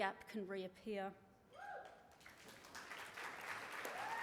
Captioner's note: cheering and applause